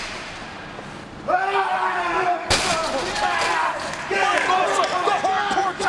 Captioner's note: wrestlers grunting